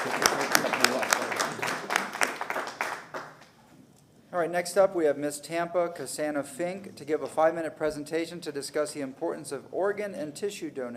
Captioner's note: applause